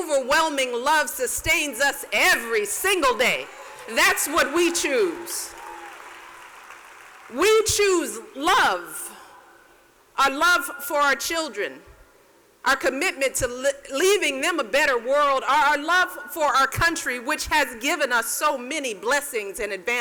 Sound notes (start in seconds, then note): 5.2 applause